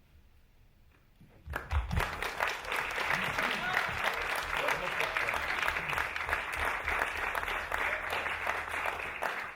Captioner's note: applause